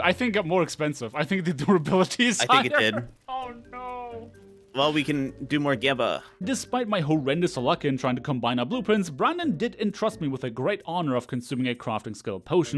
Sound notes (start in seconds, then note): 2.3 laughs